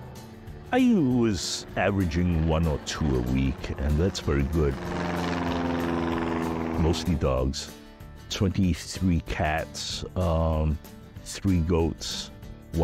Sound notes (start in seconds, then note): 5.4 engine chugs